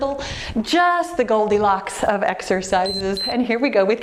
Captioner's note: timer beeps